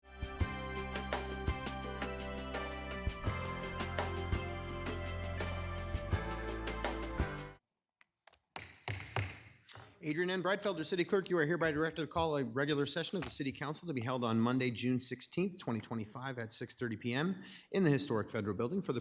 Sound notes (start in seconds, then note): 0.0 bright music; 9.1 gavel banging